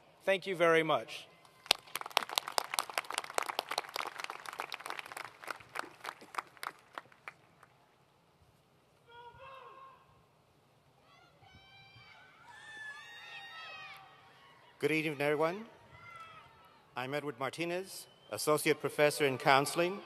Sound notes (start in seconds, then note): 1.5 applause; 8.2 cheers